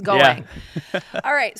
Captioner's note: laughs